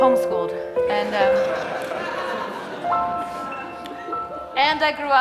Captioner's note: audience laughing